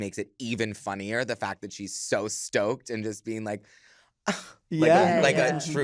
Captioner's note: gasps